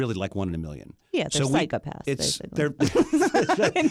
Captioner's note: laughs